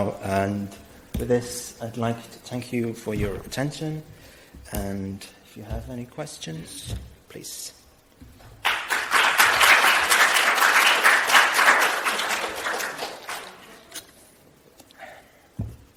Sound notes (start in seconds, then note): 8.6 applause